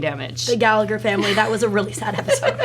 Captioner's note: laughs